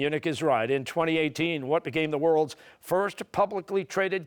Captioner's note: none